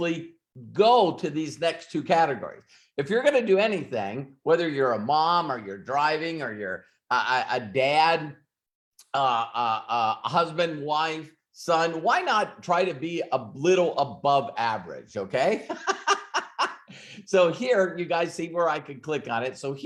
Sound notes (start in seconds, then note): 15.6 laughs